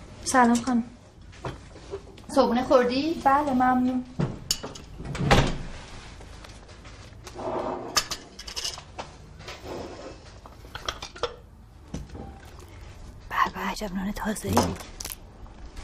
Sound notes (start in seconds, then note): 5.0 door closing; 7.4 clanking sound